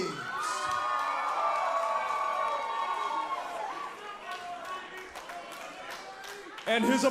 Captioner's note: crowd cheering